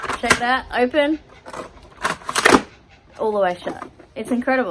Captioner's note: clickety-slide and a clap